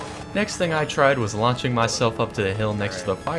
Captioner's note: explosion